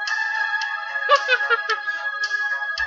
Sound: laughing

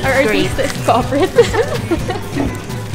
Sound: laughs

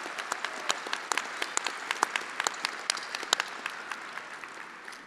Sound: attendees applauding

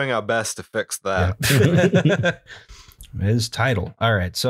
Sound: laughter

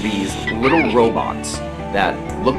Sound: giggling

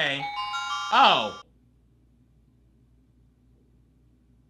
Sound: bells chiming

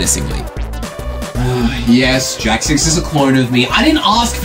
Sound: sigh

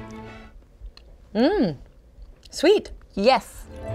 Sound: hums

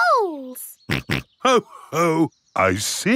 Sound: snorts

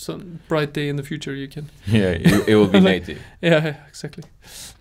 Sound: laughs

